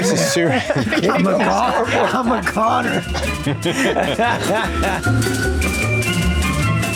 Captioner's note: all laugh; jazzy music